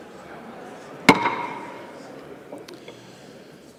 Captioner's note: gavel